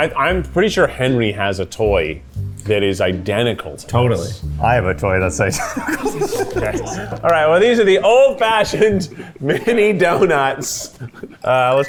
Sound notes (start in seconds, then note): 5.4 laughs